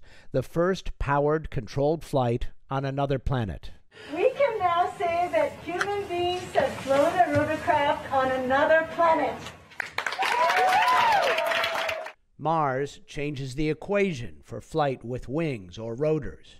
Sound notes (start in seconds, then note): 9.8 cheering and applause